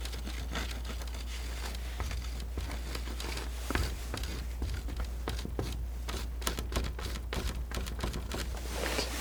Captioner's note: scratching